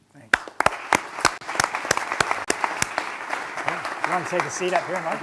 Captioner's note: applause